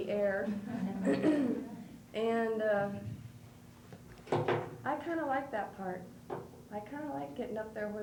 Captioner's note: clears throat